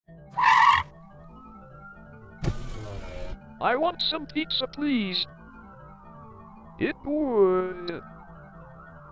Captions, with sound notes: [Tires screech] [window rolls down] "I want some pizza, please" "It wood-"